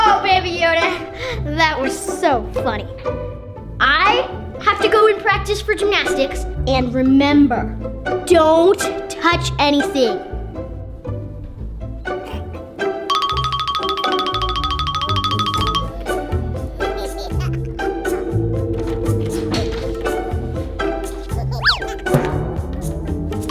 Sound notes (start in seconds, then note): 10.6 light hearted music; 19.0 door clicks; 20.2 light hearted music